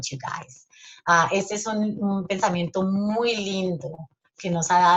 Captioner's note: speaking Spanish